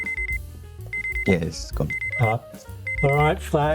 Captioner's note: alarm